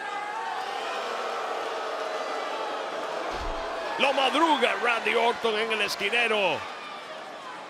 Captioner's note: applause